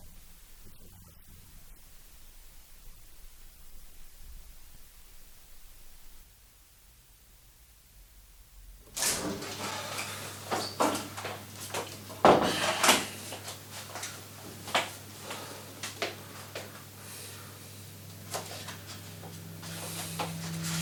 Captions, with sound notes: If you'll excuse me I need to rehearse a little more. [door shuts]